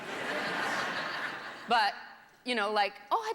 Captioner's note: laughter